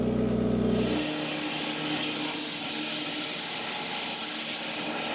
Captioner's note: log saw whirring